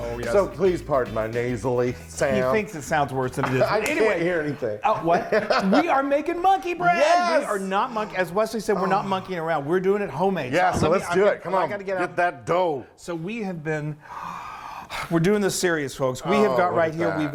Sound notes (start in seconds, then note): 4.8 laughing